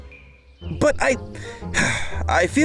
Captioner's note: sighs